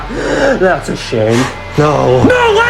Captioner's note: gasps; laughs